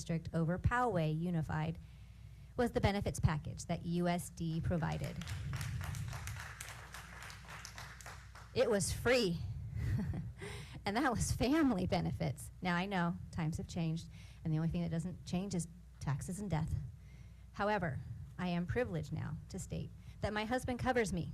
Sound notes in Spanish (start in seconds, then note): 4.8 aplausos